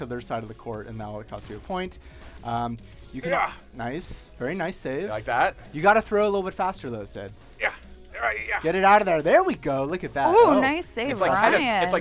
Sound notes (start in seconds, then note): 8.1 grunting